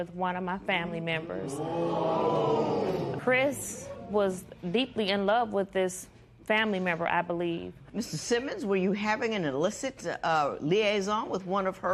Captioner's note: spectators "Ooh"